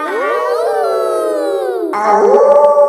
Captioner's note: howling; kids howling; wolf howling loudly